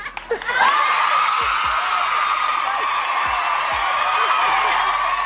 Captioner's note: audience cheers and applauds